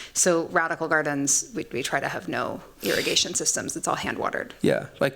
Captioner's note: none